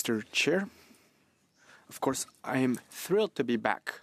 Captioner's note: speaking French